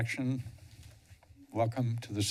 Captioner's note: pause